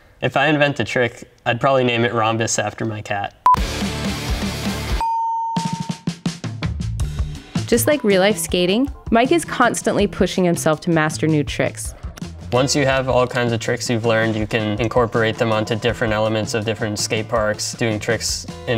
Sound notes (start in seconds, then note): 3.5 rock music; 5.0 electronic dinging; 5.0 electronic beeping